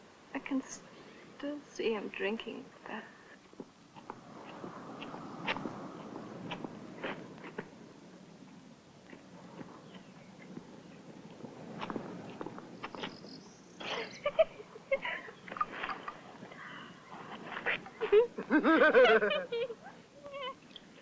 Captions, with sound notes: I can still see him drinking that. (both laughing)